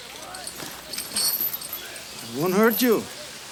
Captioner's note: chain clinks